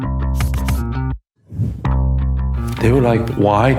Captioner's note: text whooshes; upbeat music continues